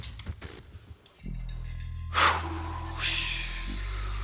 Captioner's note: exhaling